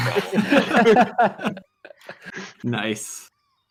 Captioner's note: laughter